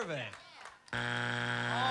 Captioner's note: buzzer